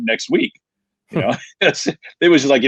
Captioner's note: laughing